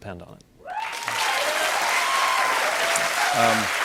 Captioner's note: cheers and applause